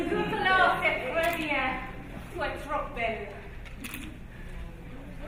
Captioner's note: speaking in foreign language